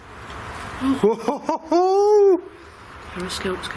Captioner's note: laughing